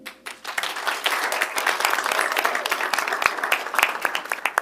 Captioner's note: audience applauds